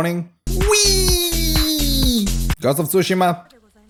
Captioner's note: happy noises